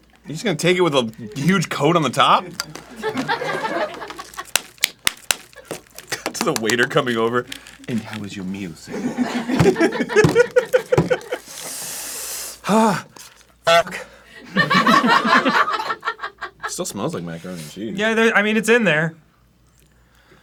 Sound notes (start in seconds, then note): 7.8 in the style of droopy dog; 9.5 suffering, pounding fist on table; 11.4 sharp, hissing breath in